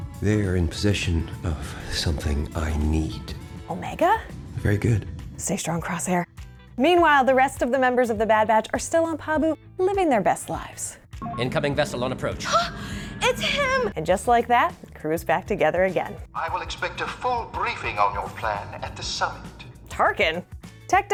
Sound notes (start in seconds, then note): 12.6 gasps